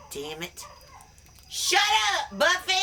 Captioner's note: dog howling